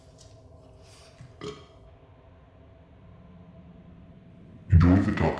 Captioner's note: moaning